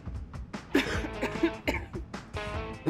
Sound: coughs politely

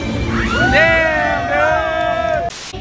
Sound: cheering

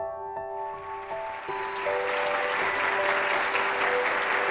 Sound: applause

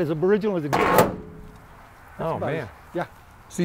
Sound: door screeches open

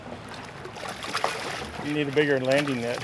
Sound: fish splashing

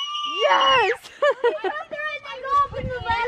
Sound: screaming

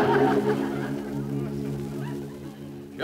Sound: audience Laughs

